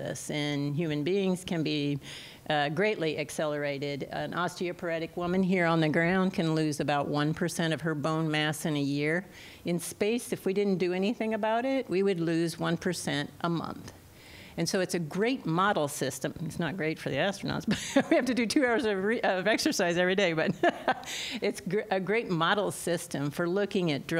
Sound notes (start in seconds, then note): 17.7 laughter; 20.4 laughter